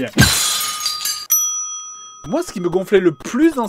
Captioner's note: crash!; ding!